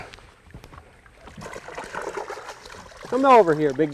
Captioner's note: splashing